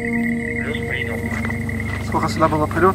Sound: radio exchange

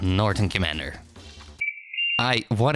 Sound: ♫ Computer beeps for 'error'

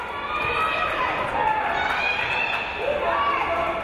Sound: crowd cheering

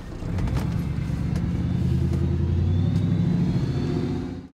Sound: engine revving

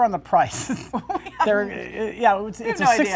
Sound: laughs

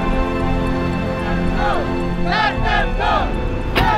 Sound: crowd; car door slamming

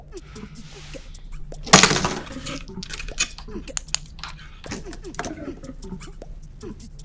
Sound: alarm clock knocked down

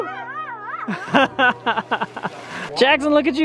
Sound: laughs

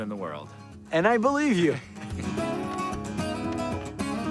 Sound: chuckling

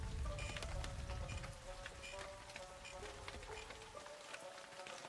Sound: wood creaking

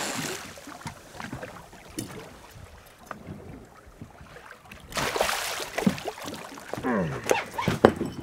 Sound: reel spinning; fish splashing; grunting

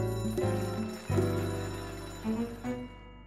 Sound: bell rings

